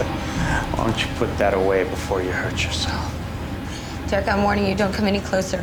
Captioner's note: chuckling